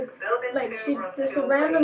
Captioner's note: radio chatter